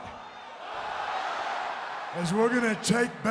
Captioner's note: crowd cheers